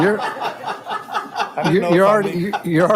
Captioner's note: all laughing